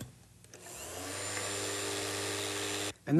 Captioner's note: whirring